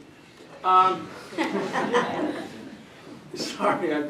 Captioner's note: laughter